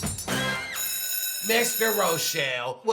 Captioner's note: school bell rings